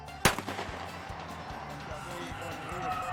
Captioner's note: gun fires